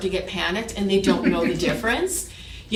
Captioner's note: chuckled